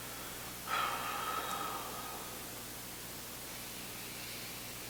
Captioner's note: exhaling